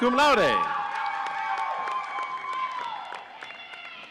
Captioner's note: audience cheering